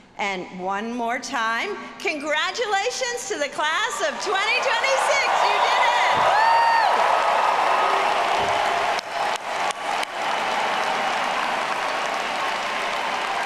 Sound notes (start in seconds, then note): 5.4 audience cheering; 7.2 audience applauding